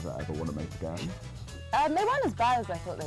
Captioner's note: laughs